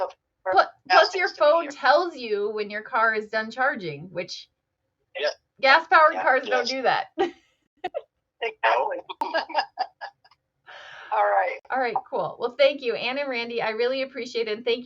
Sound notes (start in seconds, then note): 7.4 all laugh